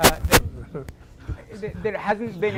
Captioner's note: laughing